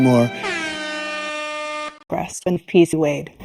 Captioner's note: horn Blares